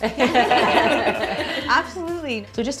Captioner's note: all laughing